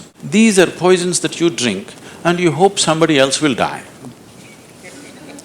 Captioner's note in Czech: Smích